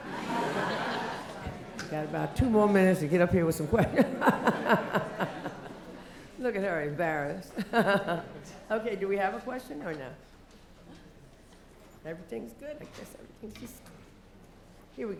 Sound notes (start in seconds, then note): 0.0 laughter; 3.7 laugh; 7.5 laugh